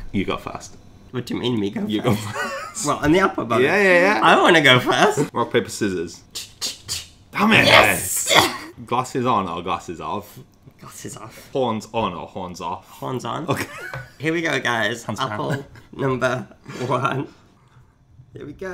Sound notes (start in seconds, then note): 2.0 laughs; 13.8 laughs; 17.6 chuckling